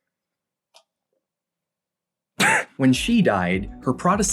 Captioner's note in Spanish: Atragantándose, tosiendo